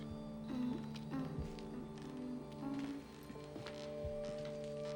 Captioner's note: humming